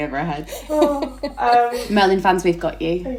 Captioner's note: laughing